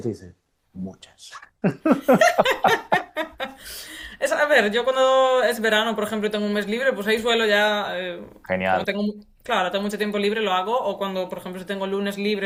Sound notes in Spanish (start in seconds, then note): 1.6 risas